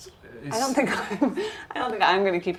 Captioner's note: chuckles